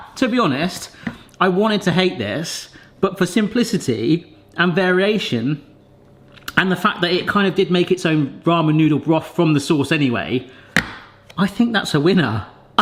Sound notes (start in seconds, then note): none